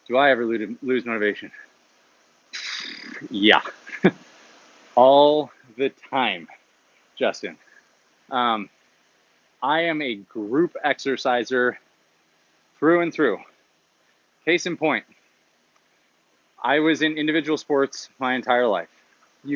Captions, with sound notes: Do I ever lose motivation? (sigh) Yeah. All the time, Justin. I am a group exerciser through and through. Case in point. I was in individual sports my entire life,